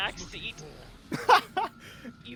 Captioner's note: laughs